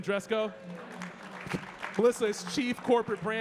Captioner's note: audience clapping